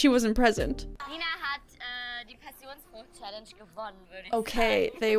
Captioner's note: show contestant speaking in German